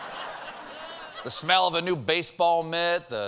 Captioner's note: laughter